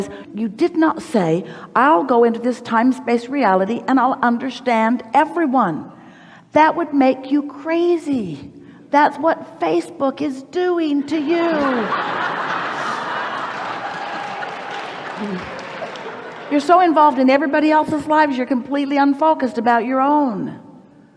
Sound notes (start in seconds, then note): 11.1 the audience laughs